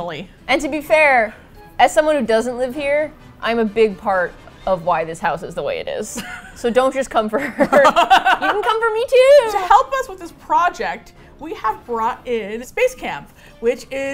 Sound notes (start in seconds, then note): 6.1 laughs; 7.4 both laugh; 7.8 cheerfully